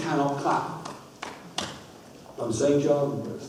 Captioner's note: claps four times